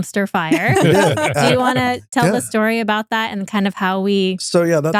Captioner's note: laughing